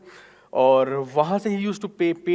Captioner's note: speaking in foreign language